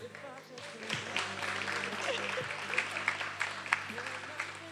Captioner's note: attendees applauding